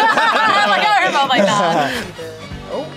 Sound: both laugh

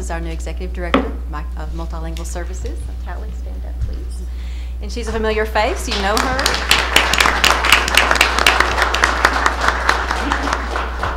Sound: applause

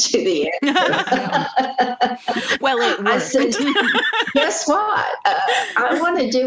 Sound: laughter

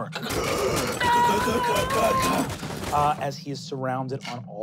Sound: grunting; metallic clanking

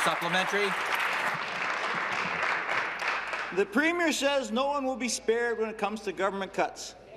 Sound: applause

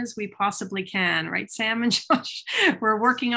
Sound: laughing

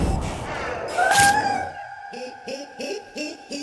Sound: screaming; high-pitched giggling

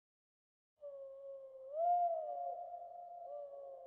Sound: owl hooting

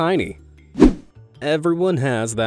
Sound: image whooshing

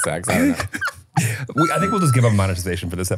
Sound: laughing

